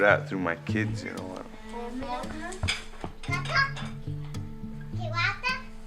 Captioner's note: speaking Menominee